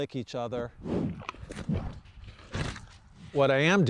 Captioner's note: cow slurping